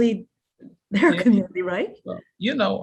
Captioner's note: chuckles